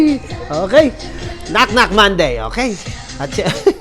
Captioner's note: dance music; laughs